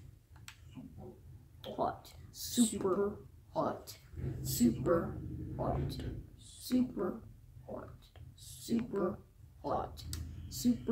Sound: chanting

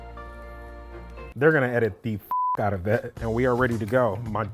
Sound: calm music; beep

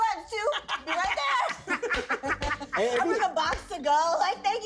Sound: laughs

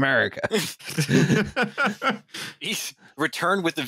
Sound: laughter

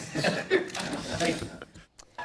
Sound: laughter

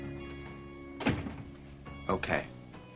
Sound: door shuts close

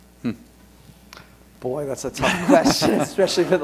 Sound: laughter

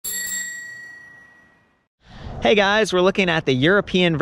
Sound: bike bell ringing

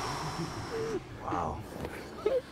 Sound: sighs

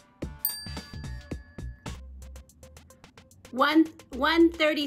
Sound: bell chimes

